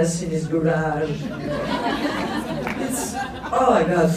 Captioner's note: laughs